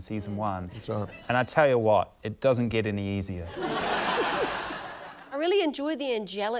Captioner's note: laughter